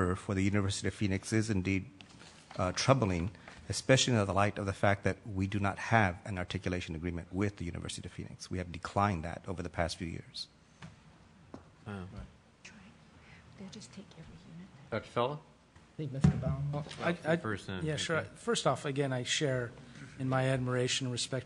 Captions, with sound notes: for the University of Phoenix is indeed troubling. Especially in light of the fact that we do not have an articulation agreement with the University of Phoenix. We have declined that over the past few years. [ Multiple voices speaking ] >> I -- yeah, sure. First off, again, I share in my admiration and respect